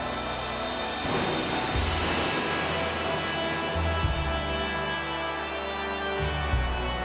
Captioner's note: dramatic music; lightning crashing